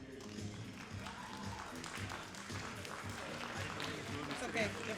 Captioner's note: all applauding and cheering